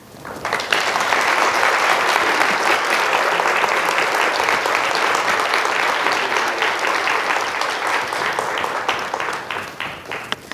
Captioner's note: applause